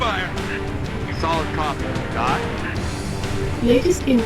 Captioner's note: radio